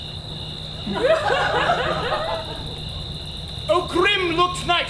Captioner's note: audience laughs